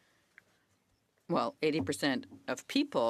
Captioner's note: speaking French